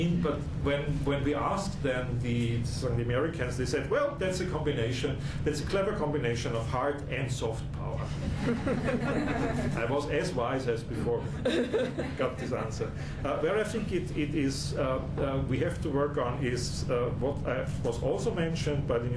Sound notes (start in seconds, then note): 8.2 laughter